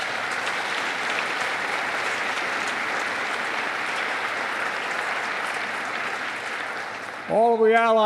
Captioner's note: applause